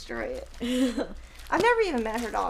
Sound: chuckles

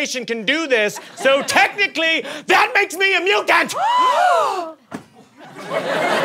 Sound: gasps

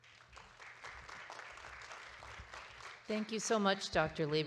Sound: audience claps

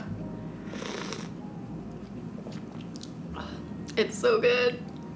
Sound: sips

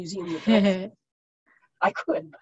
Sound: laughs

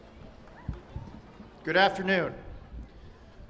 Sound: applause, applause

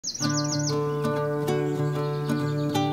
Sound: birds chirping; soft acoustic guitar

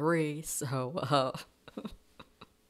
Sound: laughing

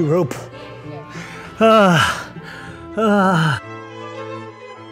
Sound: grunting

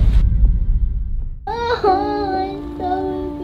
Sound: sobbing

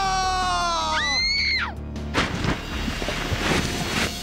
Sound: screaming

